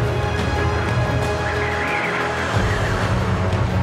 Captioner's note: wind howling